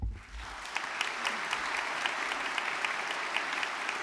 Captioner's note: audience clapping